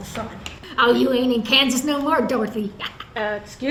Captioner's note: laughs